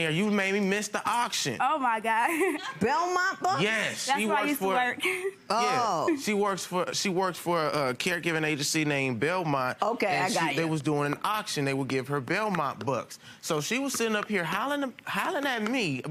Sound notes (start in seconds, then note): 2.2 giggles